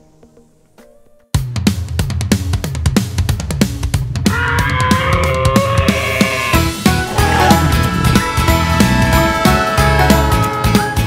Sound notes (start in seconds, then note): 1.3 upbeat music; 4.3 dinosaur roars; 7.4 dragon roars; 8.2 train whistles